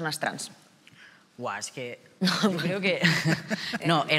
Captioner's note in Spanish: algunos ríen